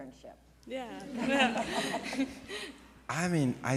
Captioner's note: audience laughs